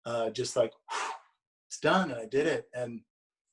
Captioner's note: blows